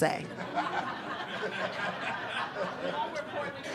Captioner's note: attendees laughing